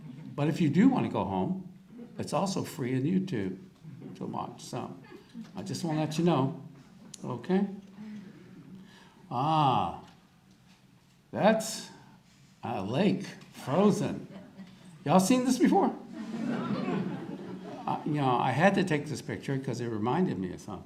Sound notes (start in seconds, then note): 13.2 audience laughter